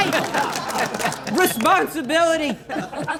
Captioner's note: audience laughing; audience cheering